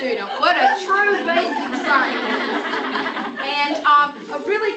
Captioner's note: laughter